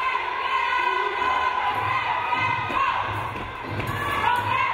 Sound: crowd cheering

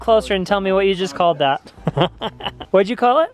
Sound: laughs

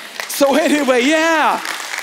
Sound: congregation applauding

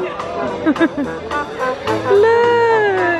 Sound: laughing

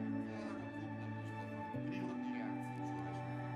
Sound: indistinct chatter

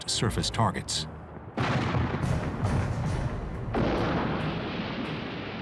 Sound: explosions

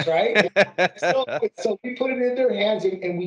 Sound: laughing

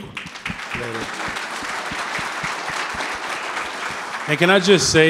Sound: audience clapping

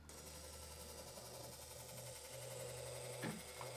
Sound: whirring

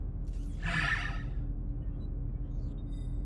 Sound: sighs

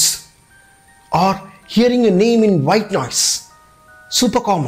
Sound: white noise

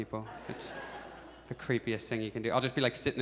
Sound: audience chuckles

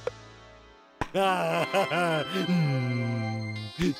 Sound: laughs

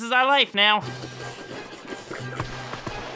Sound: licking sounds

